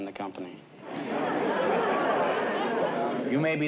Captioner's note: laughter